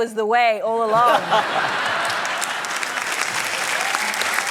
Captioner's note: laughter, applause